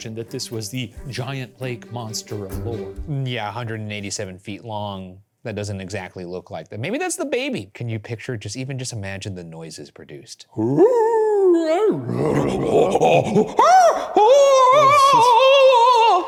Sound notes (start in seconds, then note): 10.5 both vocalize